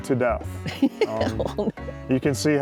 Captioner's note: laughs